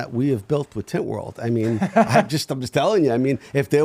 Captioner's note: laughing